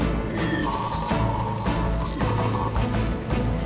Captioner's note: chatters